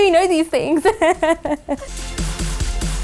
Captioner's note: laughing; techno music